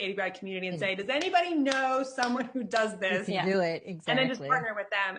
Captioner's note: claps